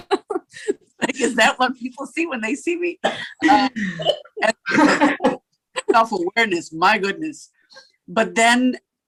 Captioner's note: laughter